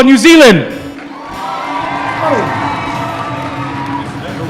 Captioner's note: applause